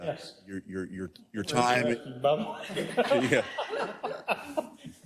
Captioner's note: laugh